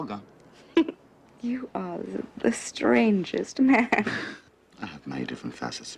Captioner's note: laughs